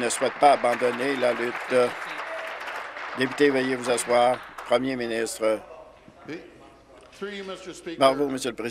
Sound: applause

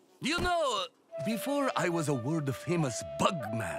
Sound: none

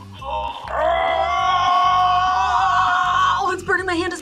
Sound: grunts

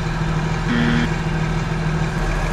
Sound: wrong answer beep

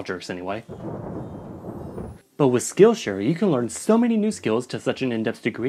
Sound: thunder

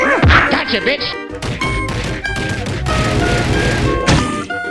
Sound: smacking intensifies

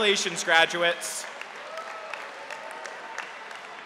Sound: cheers and applause

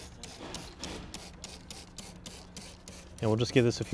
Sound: gel squirting

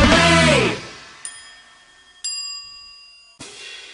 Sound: service bell

